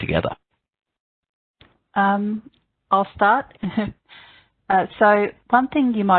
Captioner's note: chuckles